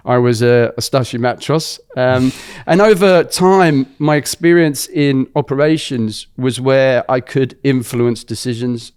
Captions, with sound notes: I was a starshyi matros. Um- [laughs] And over time, my experience in operations was where I could influence decisions,